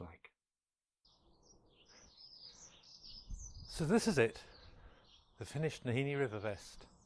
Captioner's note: with bird song in the background